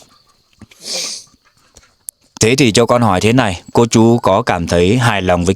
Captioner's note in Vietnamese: khịt mũi